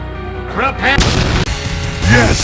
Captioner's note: explosion